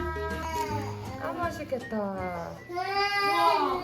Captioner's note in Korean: 조카 오열중